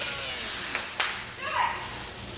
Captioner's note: hands clap